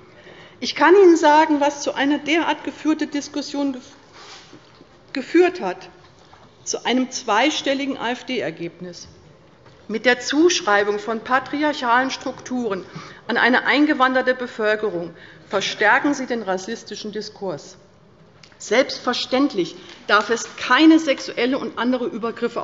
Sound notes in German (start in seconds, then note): none